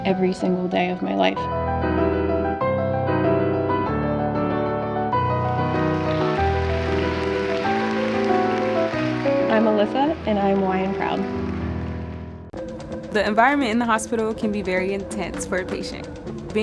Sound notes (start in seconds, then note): 1.8 powerful upbeat music; 5.2 crowd applauds